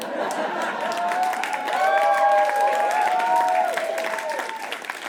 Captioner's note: audience laughs, then cheers and applauds